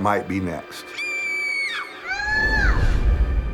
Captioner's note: Lily screams